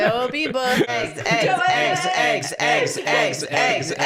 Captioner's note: laughing; chanting